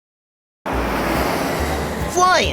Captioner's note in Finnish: lentokoneen moottori